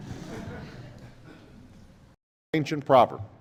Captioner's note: laughter